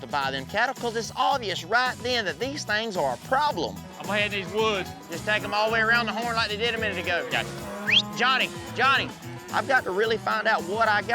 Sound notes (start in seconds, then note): 7.8 whistles